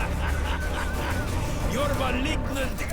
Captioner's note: laughter